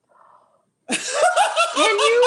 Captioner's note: gasps; laughter